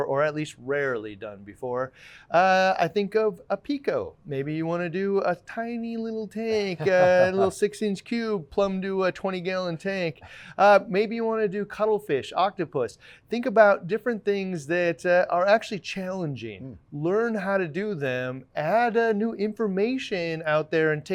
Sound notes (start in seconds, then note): 6.4 laughing